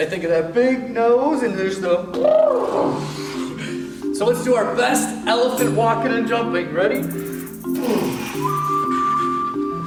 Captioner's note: elephant noise